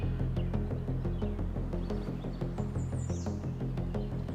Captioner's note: birds singing